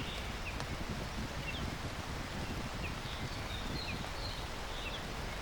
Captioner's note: birds chirping